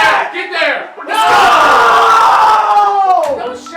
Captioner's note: cheers